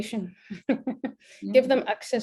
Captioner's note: laughs